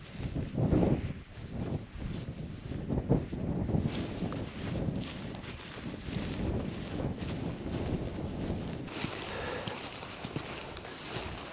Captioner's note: wind